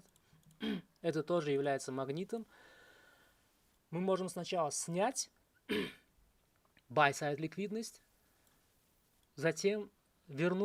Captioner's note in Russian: откашливается; откашливается